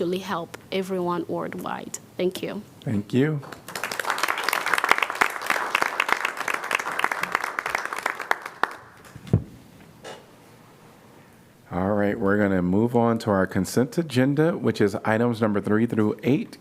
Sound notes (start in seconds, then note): 5.9 applause